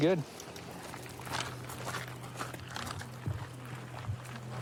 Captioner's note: footsteps crunching